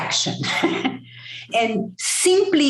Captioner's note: chuckle